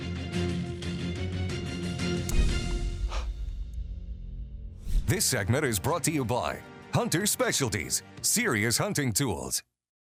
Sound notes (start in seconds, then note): 4.9 logo whooshes